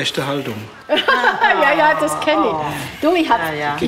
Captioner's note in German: Lachen